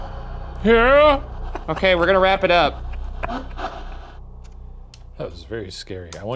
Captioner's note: chuckling